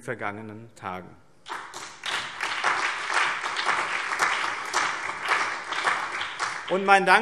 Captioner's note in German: Beifall BÜNDNIS 90/DIE GRÜNEN, CDU, vereinzelt SPD und DIE LINKE